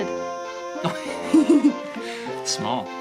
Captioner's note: laughs